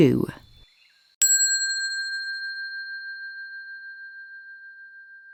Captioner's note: bell dinging